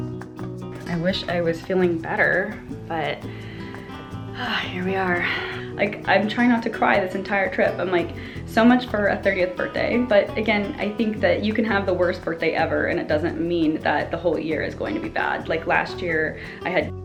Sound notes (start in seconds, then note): 5.2 sighs